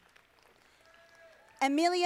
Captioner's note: audience applauding